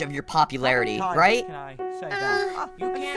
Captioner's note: background, fan